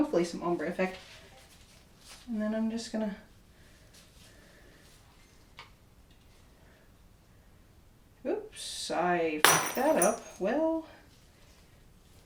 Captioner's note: glass breaking